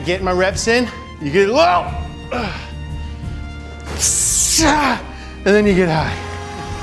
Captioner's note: groans